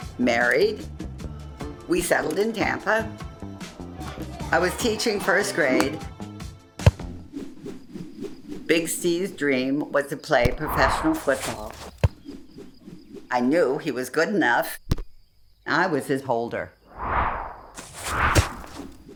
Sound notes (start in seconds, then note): 6.8 thud; 6.8 ball whooshing; 16.9 ball whooshing